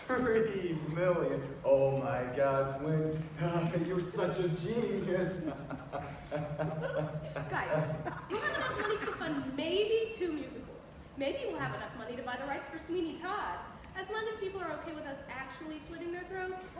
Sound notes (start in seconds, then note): 5.4 laughs maniacally